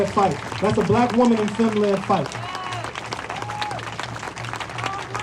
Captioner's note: applause